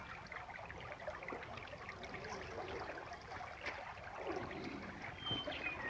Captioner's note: water running